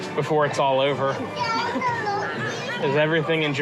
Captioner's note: children shouting